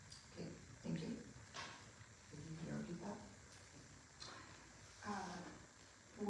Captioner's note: speaking off mic